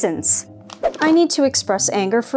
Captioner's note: whoosh